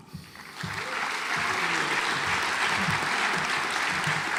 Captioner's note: audience applauds